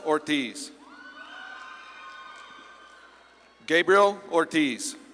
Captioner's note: audience claps and cheers